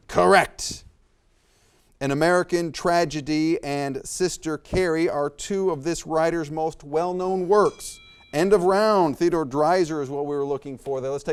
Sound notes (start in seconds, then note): 7.9 bell rings